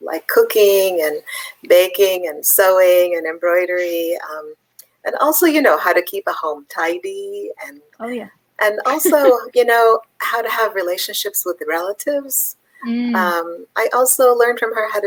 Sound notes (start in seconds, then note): 8.8 laughs